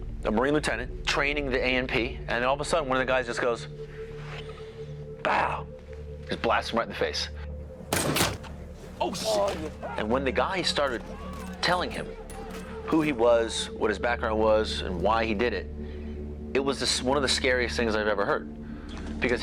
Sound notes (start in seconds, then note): 7.9 rifle cracks